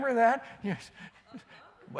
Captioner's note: laughter